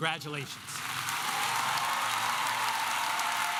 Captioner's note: applause